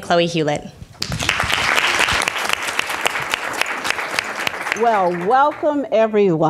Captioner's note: audience applause